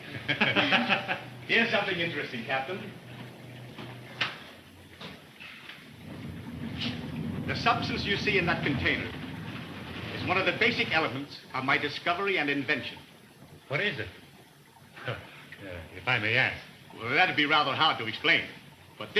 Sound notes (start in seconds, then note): 0.0 all laughing; 6.0 liquid rumbling; 15.0 chuckles